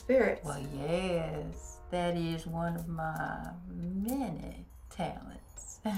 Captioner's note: chuckles